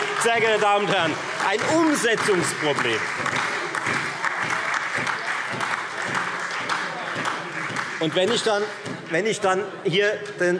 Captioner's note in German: Heiterkeit und Beifall Freie Demokraten, SPD und DIE LINKE